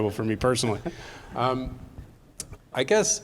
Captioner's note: audience laughing